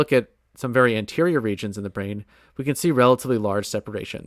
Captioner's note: none